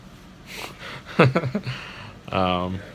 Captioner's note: laughs